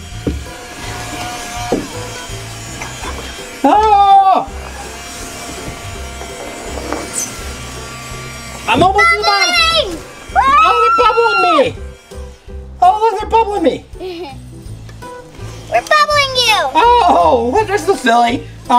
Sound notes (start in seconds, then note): 0.2 fan engine humming; 3.6 adult screams; 5.8 fan engine humming